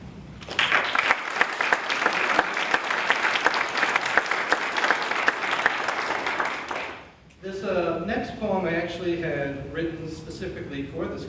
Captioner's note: applause